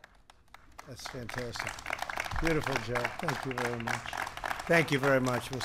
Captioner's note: applause